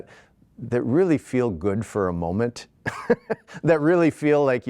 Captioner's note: laughs